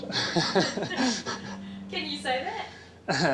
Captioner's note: laughing